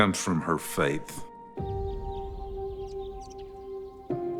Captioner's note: birds chittering